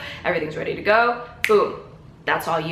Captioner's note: snaps